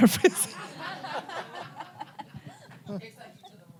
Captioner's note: audience laughs